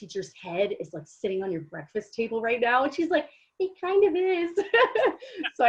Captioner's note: giggles